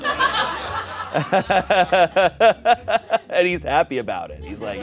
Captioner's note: everyone laughs